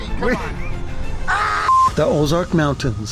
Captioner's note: beep